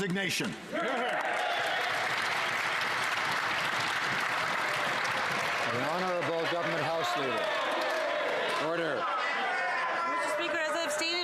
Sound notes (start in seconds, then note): 3.7 some Applause